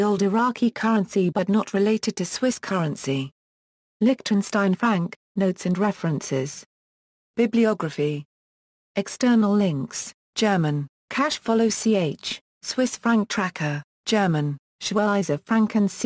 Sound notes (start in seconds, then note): 10.1 German